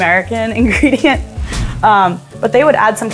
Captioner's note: laughing; words whooshing